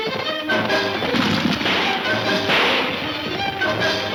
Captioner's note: gunfire pops